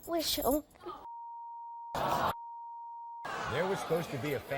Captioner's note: audience jeering and swearing